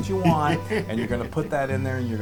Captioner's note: laugh